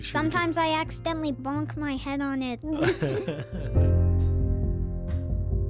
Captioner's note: laughs